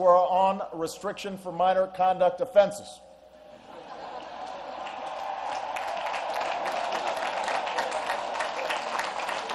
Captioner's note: laughter and applause